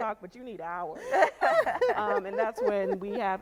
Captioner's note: laughing